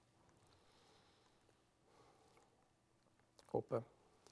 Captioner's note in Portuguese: pausa sonora